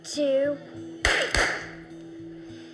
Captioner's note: popping